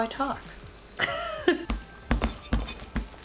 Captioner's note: chuckles